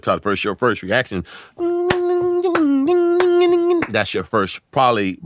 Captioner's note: clapping; humming